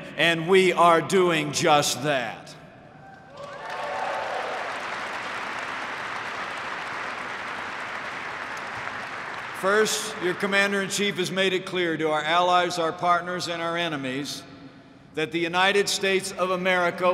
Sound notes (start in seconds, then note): 3.3 applause